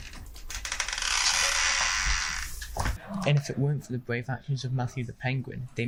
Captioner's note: whispering